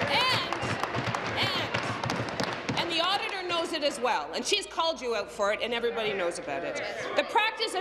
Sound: applause

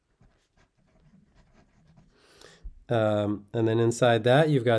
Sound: pen scratching

